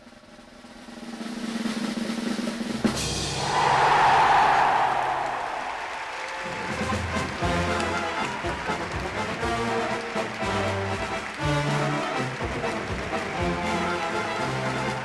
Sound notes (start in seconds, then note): 0.8 drum roll plays; 3.7 chime plays; 5.0 cheers; 7.7 applause; 7.7 celebratory music plays